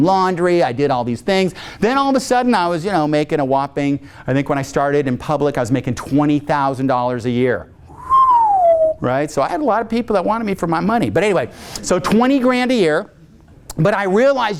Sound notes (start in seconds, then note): 7.9 whistles